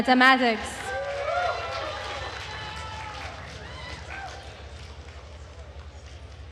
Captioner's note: attendees cheering and applauding